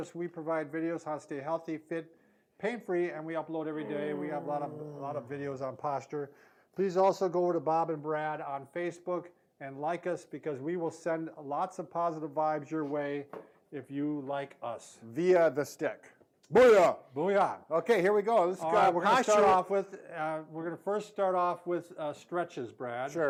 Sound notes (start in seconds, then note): 3.8 trills lips